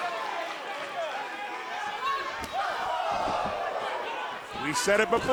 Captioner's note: crowd chatter